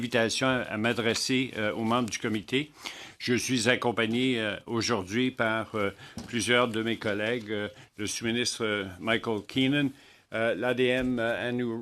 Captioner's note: speaking in French